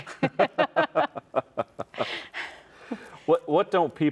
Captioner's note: chuckle